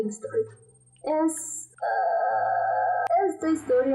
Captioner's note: sound of joy and happiness but also exhaustion